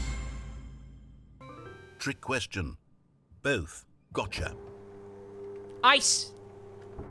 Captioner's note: orchestra hit; "right" and "wrong" sounds play simultaneously